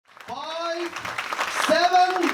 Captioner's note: audience cheering